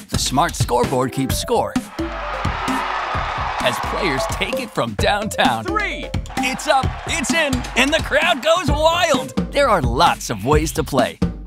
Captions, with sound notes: Smart scoreboard keeps score (crowd cheering) as players take it from downtown. Three. It's up, it's in, and the crowd goes wild! There are lots of ways to play.